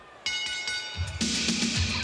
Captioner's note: bell rings